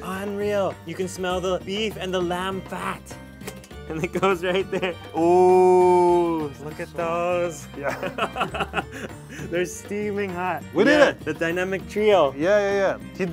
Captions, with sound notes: Unreal. You can smell the beef and the lamb fat. And it goes right there. Ooooh. Look at those. (laughing) They're steaming hot. - We did it. - The dynamic trio. - Yeah, yeah, yeah.